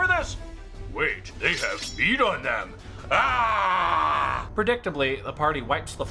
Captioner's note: screams in cannibal